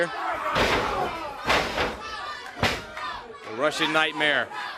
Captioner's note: crowd cheering